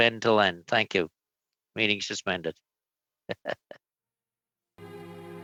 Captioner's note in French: voix de l'interprète